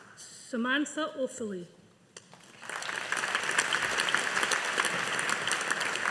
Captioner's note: audience applauding